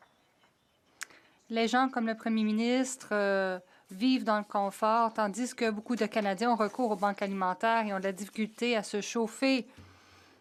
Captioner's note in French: voix de l'interprète